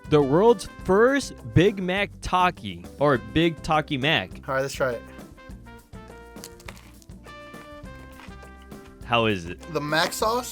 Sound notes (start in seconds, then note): 6.2 burger crunches; 8.4 chews